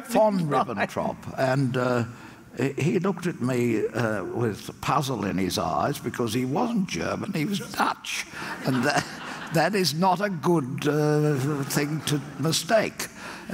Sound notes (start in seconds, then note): 0.8 audience laughs; 8.4 audience laughs